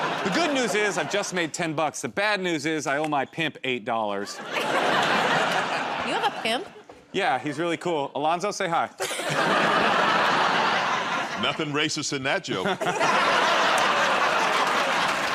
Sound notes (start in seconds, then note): 4.2 laughter; 9.0 laughter; 12.6 laughter and applause